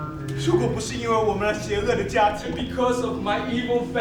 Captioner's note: speaking in a foreign language